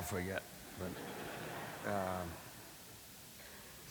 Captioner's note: laughter